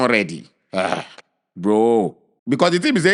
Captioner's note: sighs; laughs